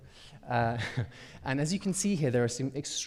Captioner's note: chuckles